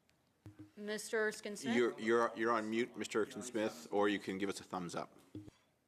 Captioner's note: speaking French